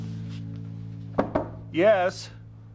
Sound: ABED knocks

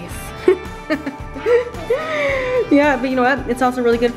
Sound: laughing

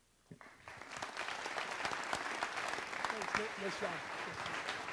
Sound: audience applauds

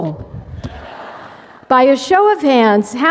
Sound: laughter

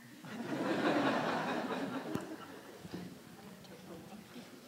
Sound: audience laughing

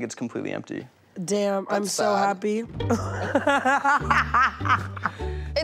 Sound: laughing

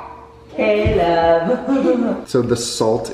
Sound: laughs

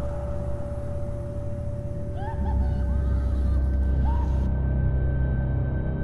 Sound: unknown creature laughing from the darkness

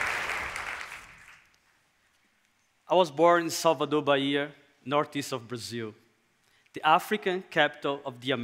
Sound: applause

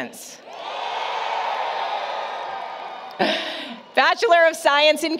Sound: applause, Cheering

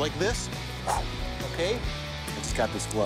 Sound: imitates whoosh

